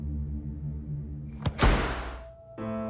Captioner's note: suspenseful music; door banging